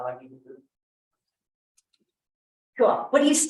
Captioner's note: clicks mouse